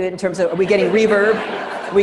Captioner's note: students laughing